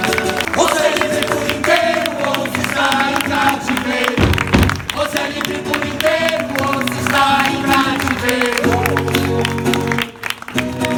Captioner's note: applause